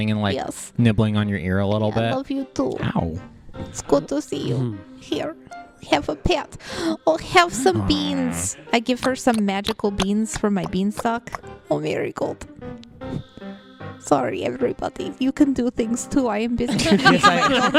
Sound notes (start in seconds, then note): 9.2 makes a contented hee-haw sound and some munching noises; 16.7 everyone laughs